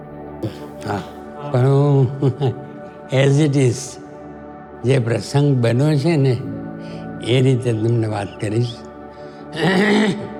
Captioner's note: chuckles